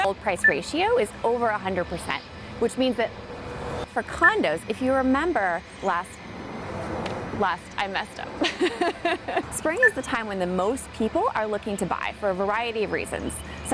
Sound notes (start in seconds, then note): 8.4 laughing